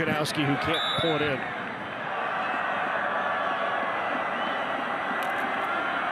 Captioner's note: referee blows whistle